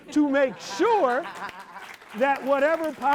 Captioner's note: audience claps